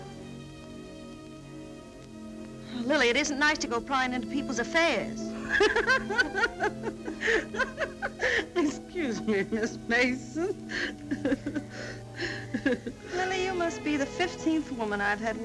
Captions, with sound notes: Lily, it isn't nice to go prying into people's affairs. (laughter) - Excuse me, Miss Mason. - Lily, you must be the 15th woman I've had